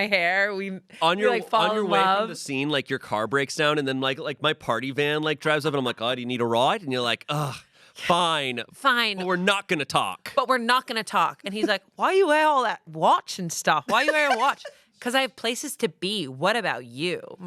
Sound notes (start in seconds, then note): 8.1 groans